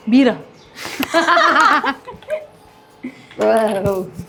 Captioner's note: both laugh